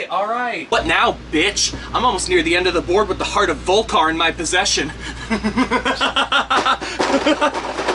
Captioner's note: laughs maniacally